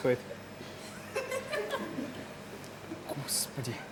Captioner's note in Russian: Смех